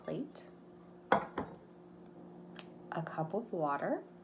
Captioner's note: plate clattering